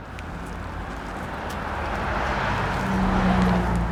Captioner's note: car whooshing